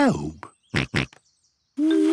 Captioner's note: snorts